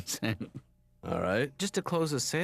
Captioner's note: laughs